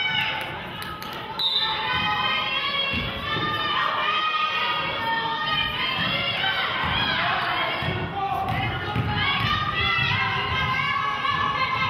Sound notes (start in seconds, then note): 1.3 whistle blows